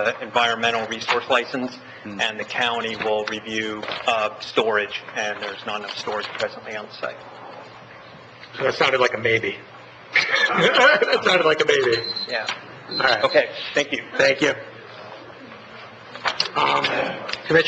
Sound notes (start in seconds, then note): 10.1 laughs; 11.8 alarm beeps